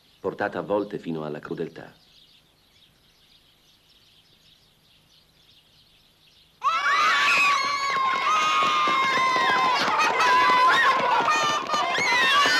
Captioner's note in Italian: Applauso